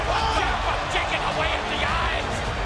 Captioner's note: crowd chatter